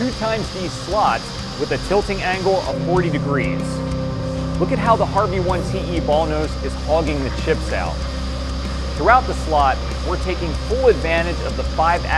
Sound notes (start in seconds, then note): 4.4 machining noises